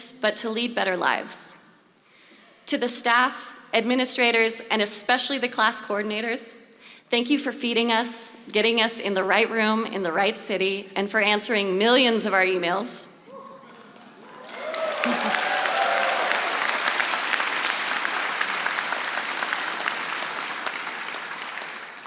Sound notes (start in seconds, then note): 13.9 audience applauding